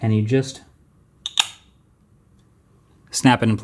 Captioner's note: lenses snapping